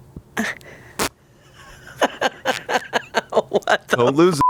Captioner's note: laughs; beep